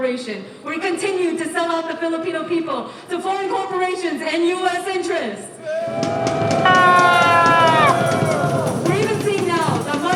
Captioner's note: crowd booing